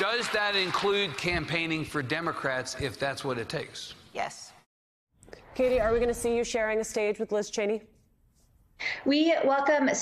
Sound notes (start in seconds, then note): 0.0 applause